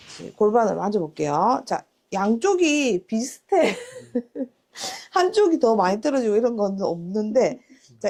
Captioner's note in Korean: 웃음